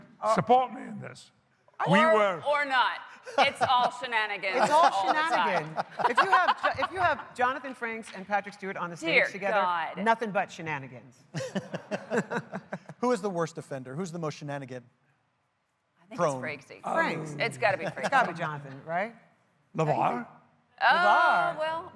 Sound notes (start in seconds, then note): 2.8 laughter